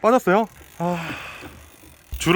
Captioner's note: sigh